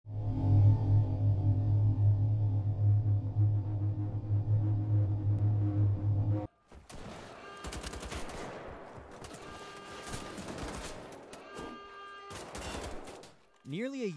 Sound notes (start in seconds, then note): 6.8 gunfire